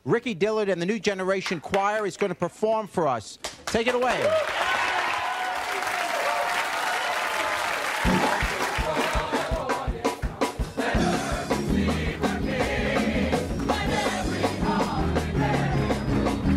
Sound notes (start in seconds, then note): 3.8 audience cheering and applauding